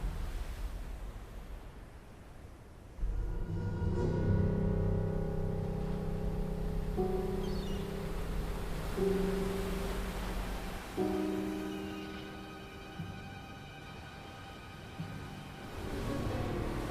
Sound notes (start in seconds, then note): 2.9 pensive music; 7.0 waves splashing; 7.3 seagulls squawking